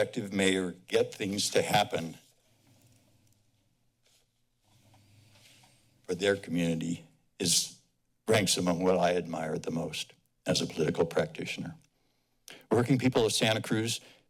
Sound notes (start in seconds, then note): 2.6 silence